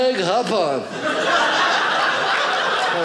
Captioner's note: audience laughing